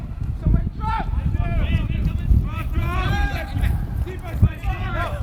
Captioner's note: players shouting